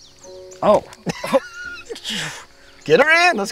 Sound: dad laughs

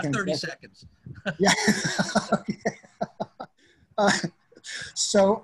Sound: laughter

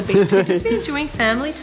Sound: laughs

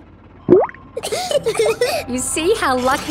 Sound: bubbles; laughing

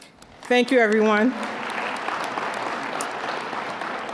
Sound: applause

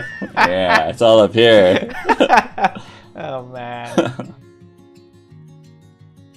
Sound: laughter; laughter

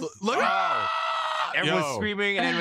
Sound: screams

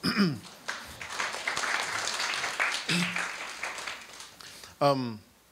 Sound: audience applauds

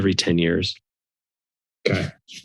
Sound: silence

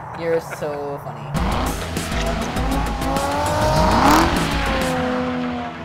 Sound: car engines revving

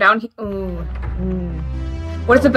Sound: immediate regret noise

